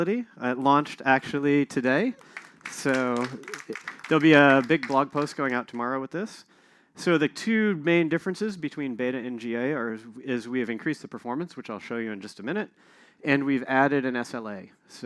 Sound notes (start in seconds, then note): 2.1 applause